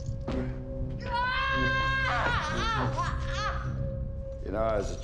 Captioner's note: yells